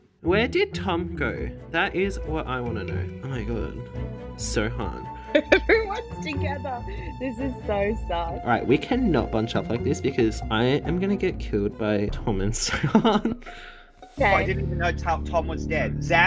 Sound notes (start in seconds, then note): 5.3 laughing